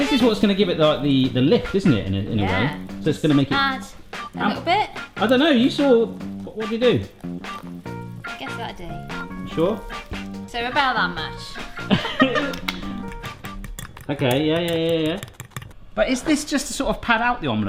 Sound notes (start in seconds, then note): 11.7 laughs